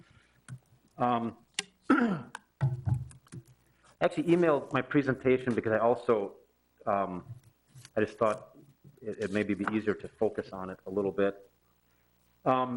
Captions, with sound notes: (clearing throat) Actually emailed my presentation, because I also I just thought it may be easier to focus on it a little bit.